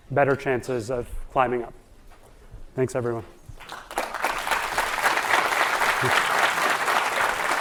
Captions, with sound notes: better chances of climbing up. Thanks, everyone. (audience applauding)